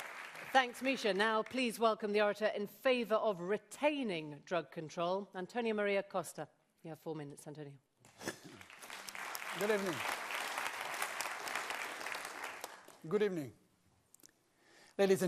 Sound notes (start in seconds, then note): 8.4 applause